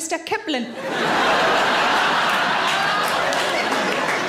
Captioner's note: audience laughing